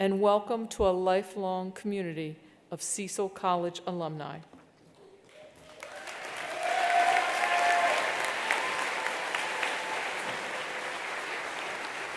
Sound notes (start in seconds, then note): 5.3 attendees applauding; 5.5 attendees cheering